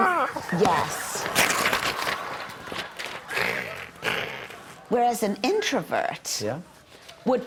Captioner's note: laughter